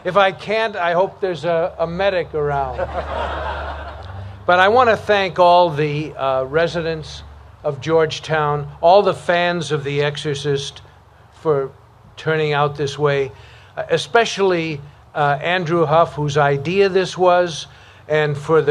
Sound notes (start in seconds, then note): 2.6 laughter